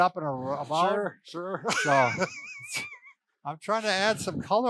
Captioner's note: laughs